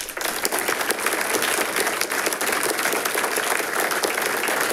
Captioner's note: audience applauding